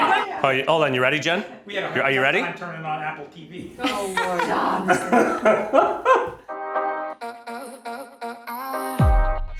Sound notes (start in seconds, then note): 3.7 laughs; 6.9 upbeat music